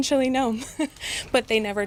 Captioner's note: laughter